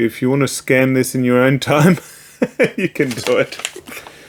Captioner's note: laughs